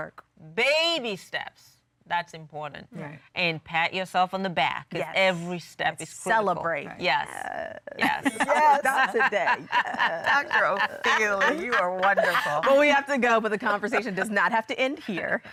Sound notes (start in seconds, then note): 8.0 laughing